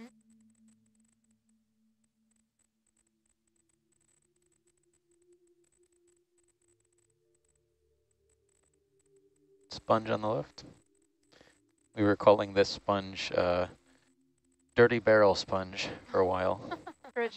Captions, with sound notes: - [Male Voice] Sponge on the left. We were calling this sponge a dirty barrel sponge for a while.